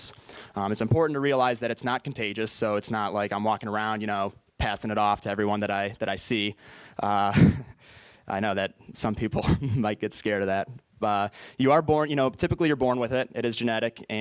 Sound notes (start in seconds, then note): 7.2 laugh